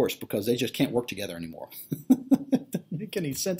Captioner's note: laughs